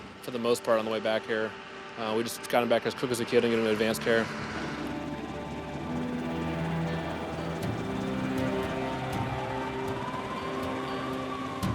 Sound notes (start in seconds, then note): 8.1 siren wails